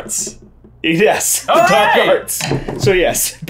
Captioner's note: laughing